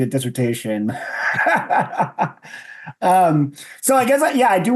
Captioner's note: all laugh